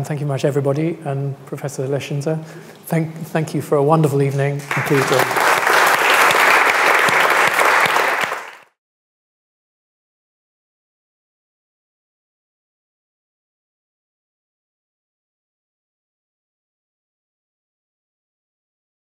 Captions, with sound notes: Thank you much everybody and Professor Leschziner, thank you for a wonderful evening and talk. (audience applauds)